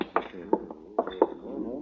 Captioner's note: knocking